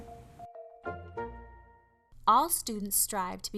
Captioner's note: silence